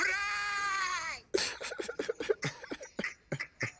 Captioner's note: laughs